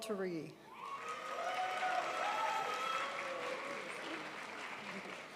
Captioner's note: crowd applauds